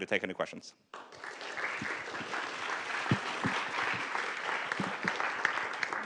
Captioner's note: applause